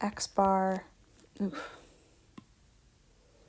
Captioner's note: sighs